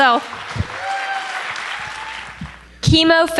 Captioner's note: applause